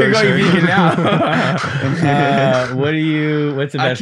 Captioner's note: group laughing